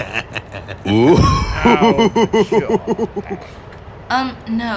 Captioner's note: laughing; laughs